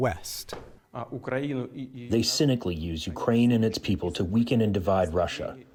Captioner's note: through translator